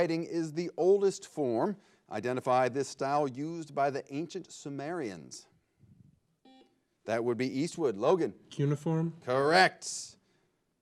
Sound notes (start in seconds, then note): 6.9 buzzer blares